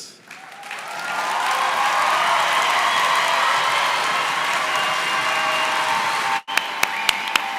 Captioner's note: applause